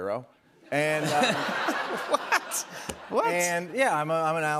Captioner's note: laughter